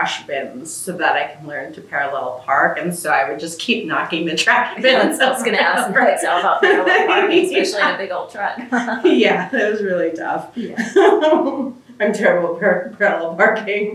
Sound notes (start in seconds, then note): 6.3 laughter